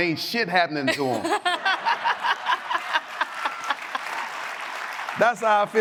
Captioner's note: audience laughs and applauds